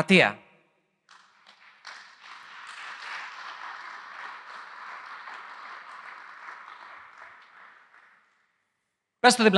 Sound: applause

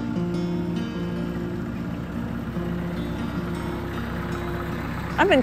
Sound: tractor engine

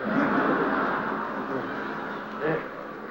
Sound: laughter

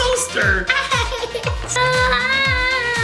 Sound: giggles; screams

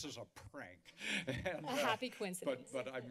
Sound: chuckles

